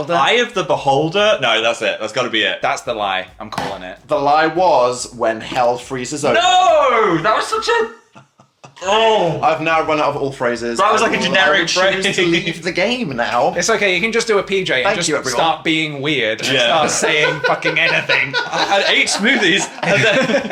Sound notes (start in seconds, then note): 8.7 groans; 11.8 laughs; 16.4 laughs; 20.3 all laughing